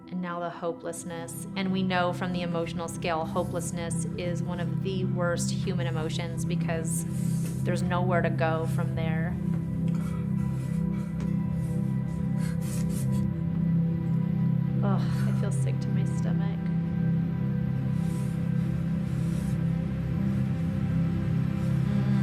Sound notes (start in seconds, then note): 9.5 Charlie breathing heavily; 17.2 Charlie breathing heavily